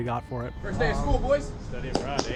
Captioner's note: claps